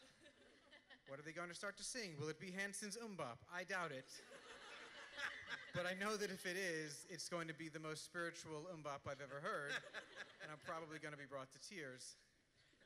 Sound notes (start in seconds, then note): 4.6 laughter